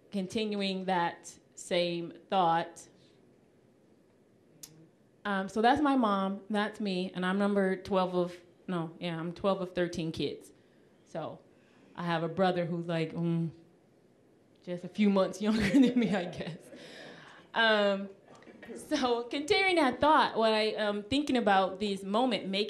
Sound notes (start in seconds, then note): 18.3 laughing